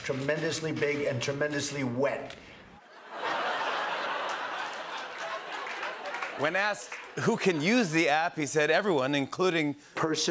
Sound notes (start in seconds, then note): 2.8 laughter